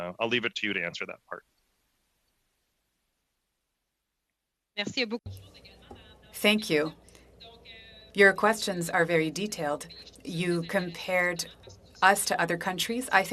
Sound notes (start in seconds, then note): 9.1 speaking in French